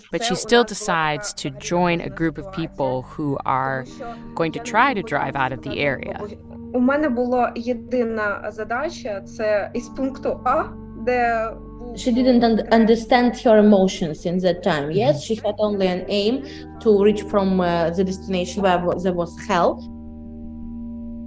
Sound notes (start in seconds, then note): 9.5 speaking Ukrainian